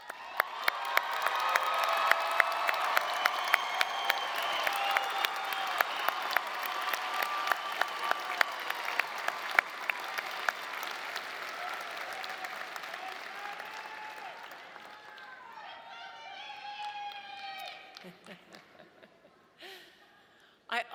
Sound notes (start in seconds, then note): 0.1 audience cheering and applauding; 13.7 people shouting; 18.0 chuckling